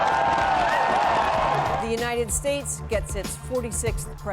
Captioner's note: cheers and Applause